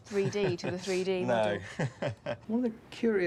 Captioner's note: laughs